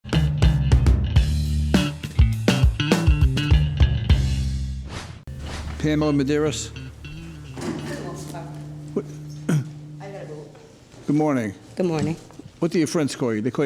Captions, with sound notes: (upbeat music) Pamela Maderas. (woman speaking in foreign language) I got a boot. Good morning. Good morning. What do your friends call you?